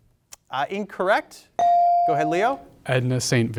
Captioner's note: bell sounding